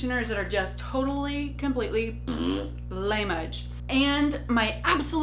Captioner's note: blows raspberry